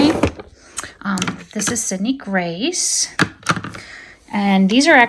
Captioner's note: item thudding